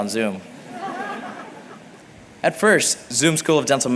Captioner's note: laughter